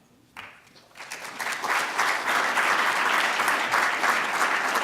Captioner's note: audience applauds